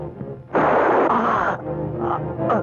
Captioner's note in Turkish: Tüfek sesi